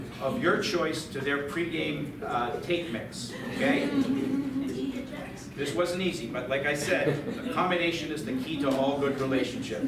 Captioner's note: light laughter